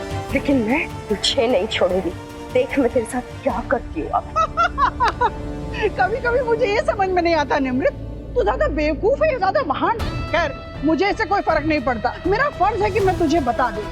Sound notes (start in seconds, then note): 4.0 laughing